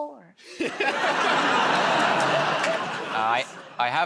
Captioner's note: laughter